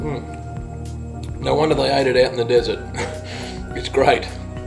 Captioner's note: laugh